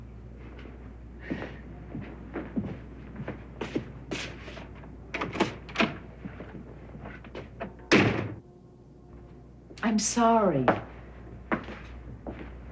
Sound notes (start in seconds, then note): 1.2 footsteps; 7.0 door latch clicks